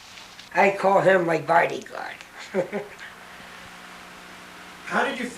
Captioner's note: laughs